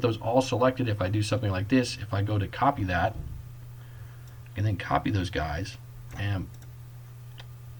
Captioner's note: click